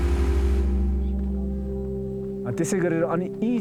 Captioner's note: footsteps on dirt